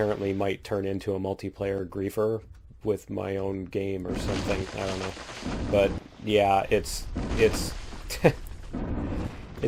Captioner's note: laughs